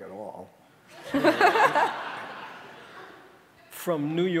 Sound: audience laughing

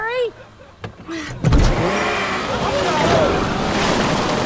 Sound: engine revving; people chattering

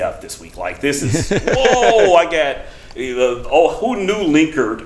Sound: laughs

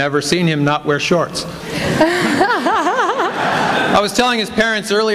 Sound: laughter

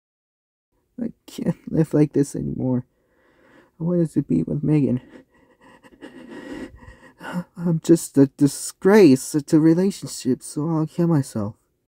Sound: sadly Shaking Sigh

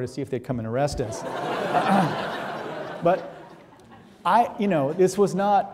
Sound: audience laughing

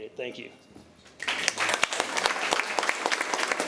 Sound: applause

